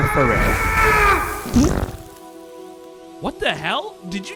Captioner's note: man screaming